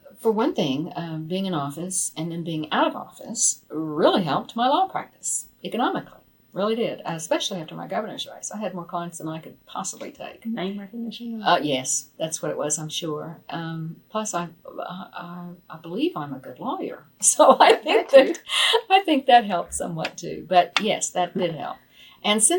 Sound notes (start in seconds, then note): 17.5 laughs